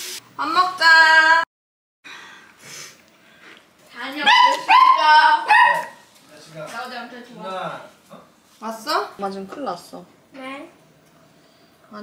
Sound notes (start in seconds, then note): 4.2 Mozzi's barking that announces the return of easy boss from his work